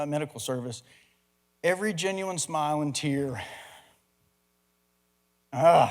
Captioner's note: chokes up